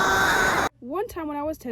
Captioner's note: Sore screaming